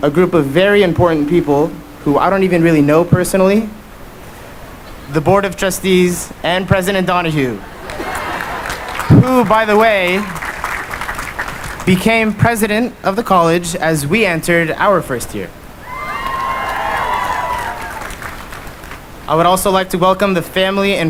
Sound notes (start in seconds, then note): 15.8 cheering and applause